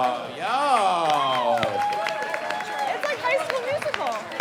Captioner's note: crowd applauding